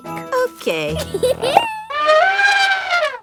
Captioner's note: giggles; trumpets